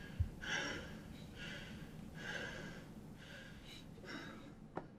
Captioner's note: breathing quickly